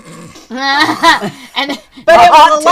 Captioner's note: laughter